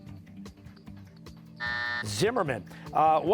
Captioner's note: buzzer